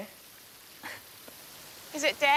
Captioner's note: scoffs